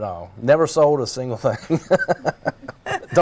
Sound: laughter

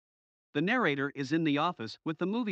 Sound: voiceover

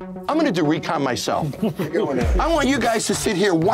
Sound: laugh

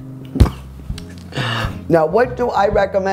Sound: laughs

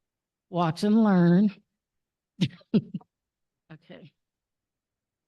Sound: chuckle

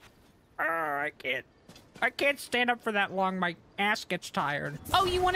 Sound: silly Voice

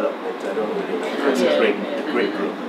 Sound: attendees murmur

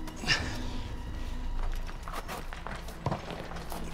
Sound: heavy breathing

